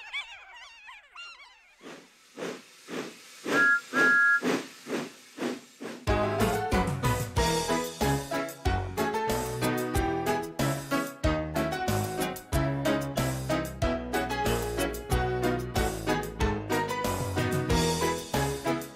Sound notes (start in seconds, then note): 3.6 tooting